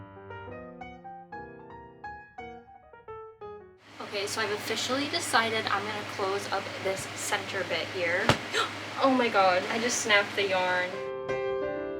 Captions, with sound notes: okay so I've officially decided I'm gonna close up this center bit here *gasp* oh my god I just snapped the yarn